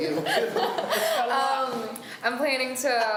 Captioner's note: laughs